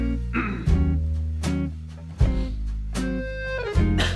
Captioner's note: clears throat